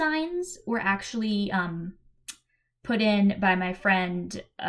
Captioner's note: click